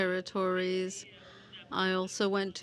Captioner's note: speaking French